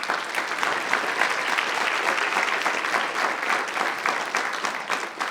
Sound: audience applauding

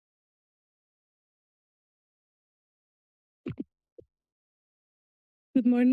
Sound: silence

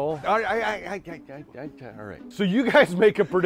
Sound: stutters

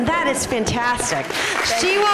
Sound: applause

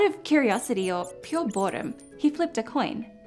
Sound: mouse squeaking

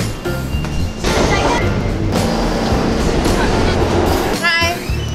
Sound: train whirs

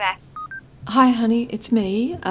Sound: beeping noise

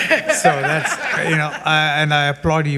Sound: all giggling

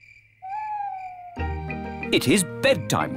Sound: crickets chirping

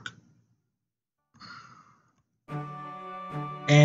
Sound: sigh

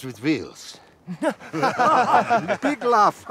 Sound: laughing

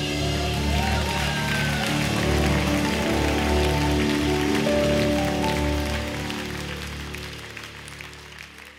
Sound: audience cheering and applause

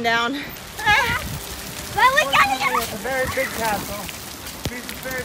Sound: kids yelling excitedly

